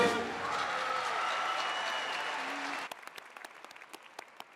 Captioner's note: audience cheering